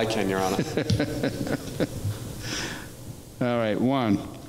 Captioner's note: laughs